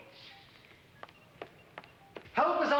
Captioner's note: footsteps tap